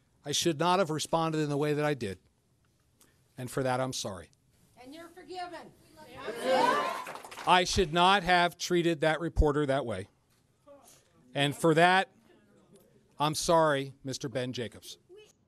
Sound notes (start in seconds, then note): 6.3 cheers, applause